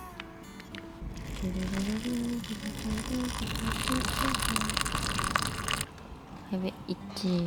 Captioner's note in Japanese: 鼻歌